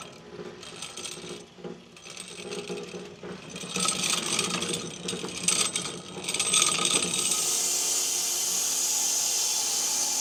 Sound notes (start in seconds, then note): 2.6 saw chassis rattling; 7.1 saw buzzing